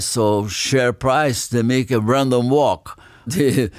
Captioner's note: laughs